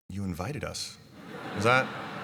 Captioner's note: laughter